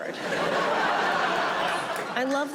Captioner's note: audience laughing